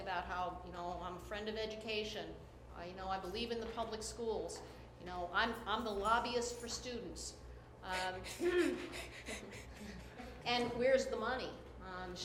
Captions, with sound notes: about how I'm a friend of education. I know I believe in the public schools. I'm the lobbyist for students. (laughter) And, where's the money?